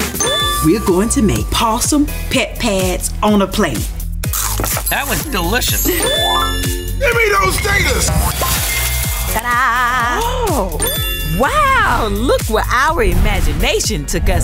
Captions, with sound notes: We're going to make possum pet pads on a plate. [crunching] That was delicious. [musical flourish] Give me those taters! -Ta-da! -Oh! Wow! Look where our imagination took us today.